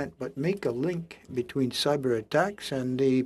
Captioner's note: speaking French